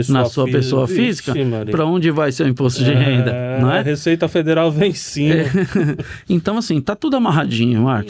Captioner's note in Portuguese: risadas